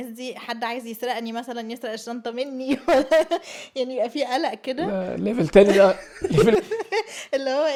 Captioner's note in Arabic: ضحك